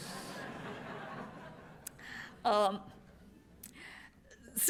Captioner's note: laughter